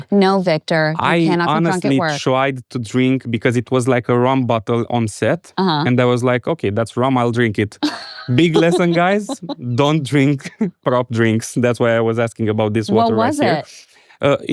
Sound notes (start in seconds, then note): 7.8 laughs